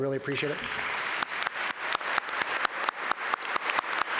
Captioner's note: all applaud